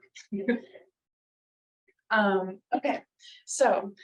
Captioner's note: laughs